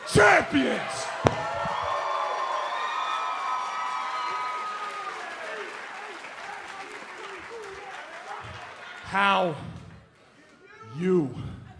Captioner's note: cheers and applause